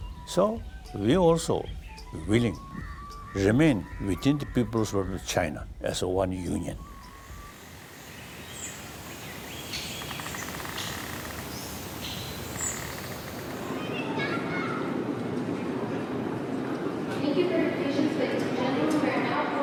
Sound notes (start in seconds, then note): 6.7 birds chirping; 13.7 child exclaims